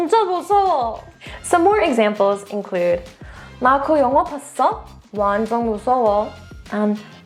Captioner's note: energetic transition music; speaking in Korean; speaks in Korean